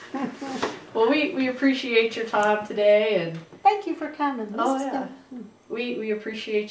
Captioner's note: laughter